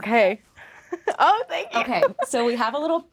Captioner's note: laughing